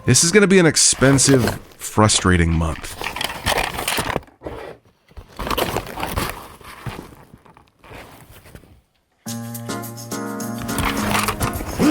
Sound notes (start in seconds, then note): 2.6 objects clanking; 9.2 jazzy music